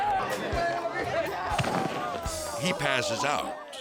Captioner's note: thudding